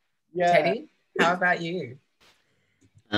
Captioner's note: giggling